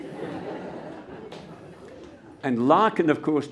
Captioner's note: laughter